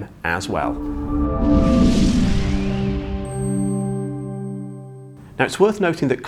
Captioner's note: gentle music; graphics whooshing